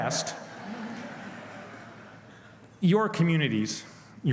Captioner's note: laughing